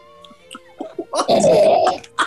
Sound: giggling; spluttering and laughing

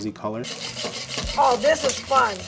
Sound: pan scraping

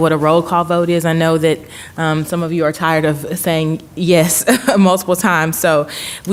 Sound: laugh

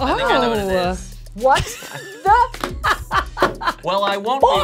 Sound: laughing

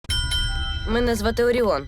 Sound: bell dings

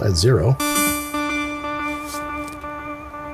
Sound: echoing

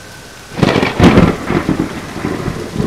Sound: lightning

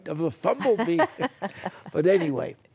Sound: laughter

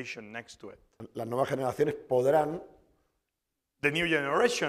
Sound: speaking spanish

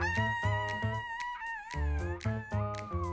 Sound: playful music; Red screams; playful music

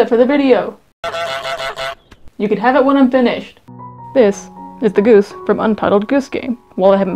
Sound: honk; more honking

